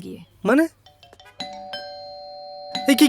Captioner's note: doorbell rings